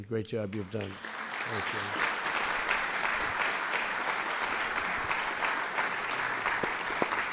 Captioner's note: applause